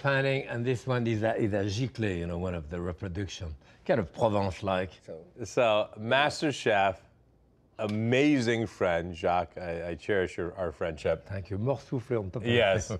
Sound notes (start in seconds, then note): none